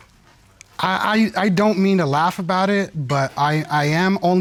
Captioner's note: stutters